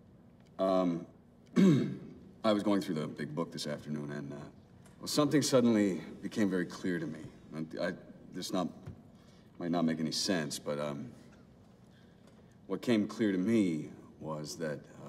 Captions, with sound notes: (clears his throat) I was going through the big book this afternoon, and something suddenly became very clear to me. Now, this might not make any sense, but, what came clear to me was that,